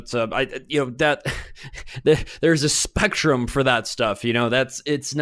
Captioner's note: chuckles